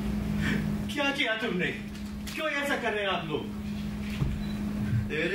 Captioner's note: speaks in foreign language